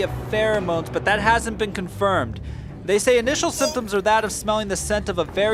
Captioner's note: breathing heavy